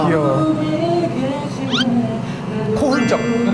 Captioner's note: sniff